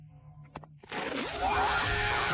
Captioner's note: screams